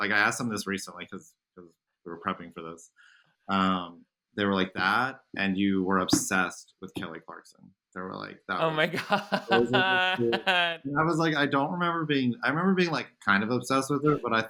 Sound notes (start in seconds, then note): 8.5 laughing